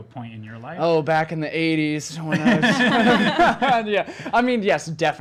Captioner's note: laughs